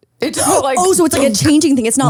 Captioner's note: gasps